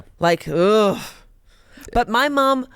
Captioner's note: groans